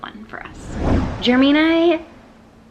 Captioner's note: whooshing sound